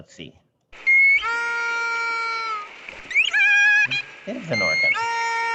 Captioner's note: video replays orca sound